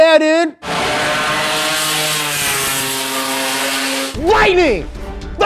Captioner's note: engine screaming